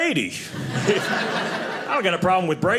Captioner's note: audience laughing